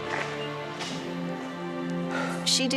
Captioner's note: sighing